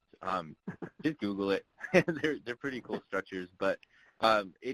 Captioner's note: voice muffled